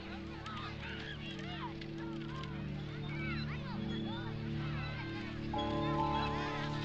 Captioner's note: children laughing and chattering